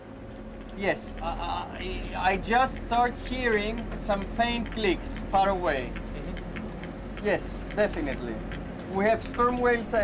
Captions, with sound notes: yes, I just start hearing some faint clicks far away. [clicking on headset] Yes, definitely, we have sperm whales ahead.